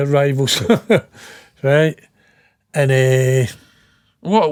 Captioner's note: laughing